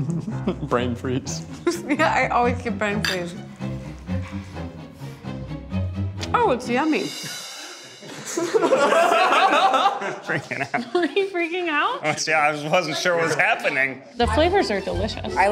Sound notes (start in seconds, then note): 4.1 dramatic music; 8.0 chuckling